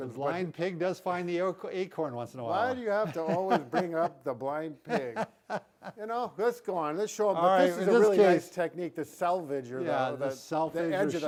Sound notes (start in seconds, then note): 4.9 chuckles